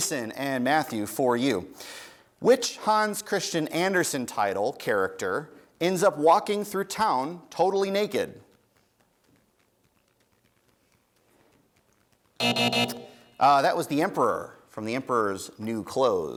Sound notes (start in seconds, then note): 12.4 buzzing